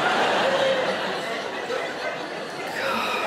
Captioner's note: audience laughing